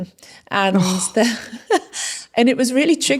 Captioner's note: laughing